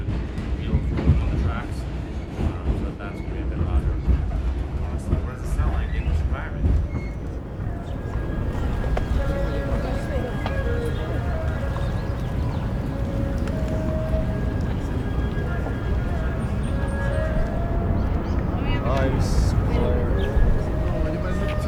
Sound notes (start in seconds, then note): 12.3 birds chirp; 13.7 gentle music